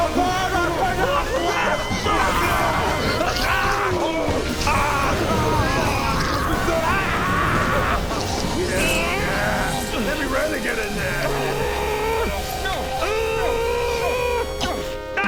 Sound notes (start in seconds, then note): 3.4 screams of regret; 8.9 sching sching